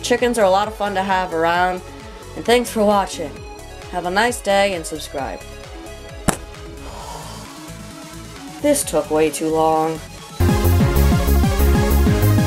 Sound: sigh

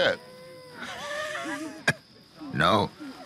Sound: Hosea laugh weakly

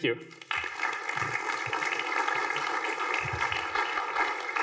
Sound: applause

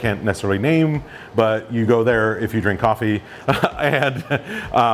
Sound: laughs

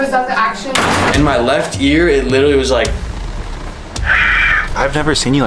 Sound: screeching noise

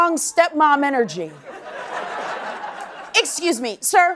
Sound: laughter

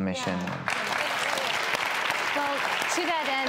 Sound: applause

